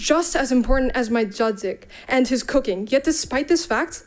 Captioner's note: speaks in Polish